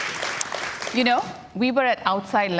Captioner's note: cheers and Applause